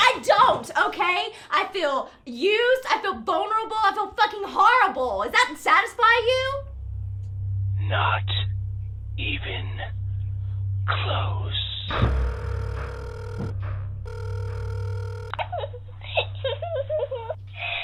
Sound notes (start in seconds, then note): 11.5 phone ringing; 15.4 giggling